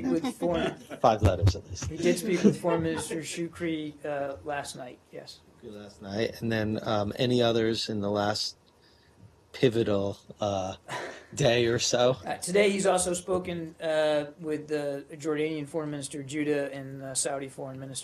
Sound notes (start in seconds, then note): 0.1 laughter